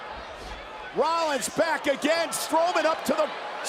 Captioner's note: applause